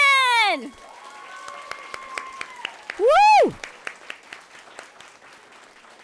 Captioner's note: audience clapping and cheering